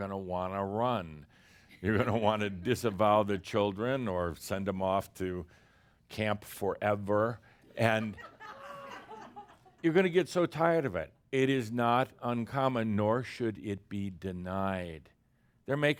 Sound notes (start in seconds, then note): 7.8 more chuckles